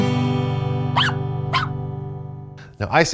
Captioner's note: guitar strums; puppy barks